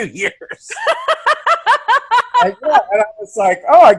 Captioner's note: uproarious laugh; chuckling